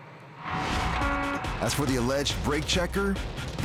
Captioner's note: horn honking